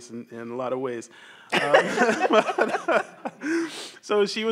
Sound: everyone laughs

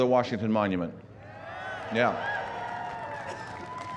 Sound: cheering and applause

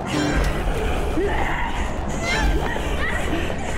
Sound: screaming

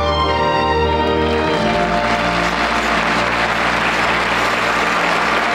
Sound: audience applauds

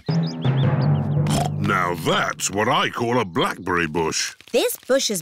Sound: snorts

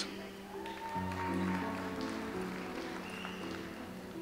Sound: audience applauds

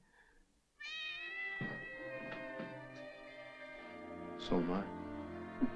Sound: cat softly meows; light orchestral music

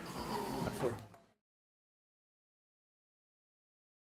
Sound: overlapping chatter

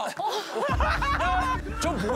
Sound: haha

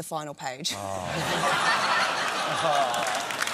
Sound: laughter

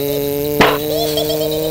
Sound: slam; giggling

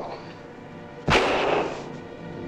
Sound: gunshot

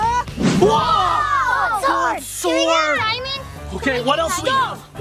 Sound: children cheer

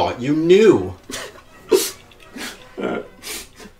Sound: Rex sobs

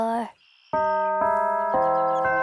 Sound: church bells

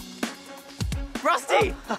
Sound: barks

